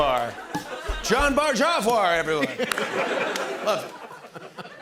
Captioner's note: laughter